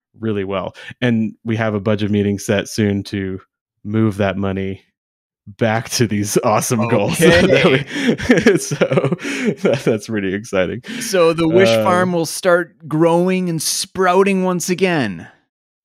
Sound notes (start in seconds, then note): 6.4 chuckles